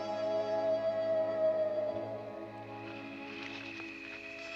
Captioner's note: wolves howling